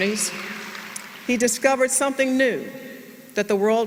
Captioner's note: applause